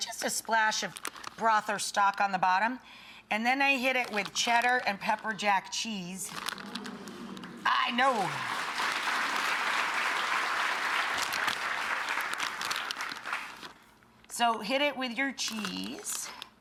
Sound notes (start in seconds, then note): 6.6 audience moans; 8.8 audience clapping